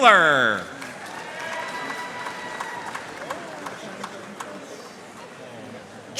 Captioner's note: audience cheering and applauding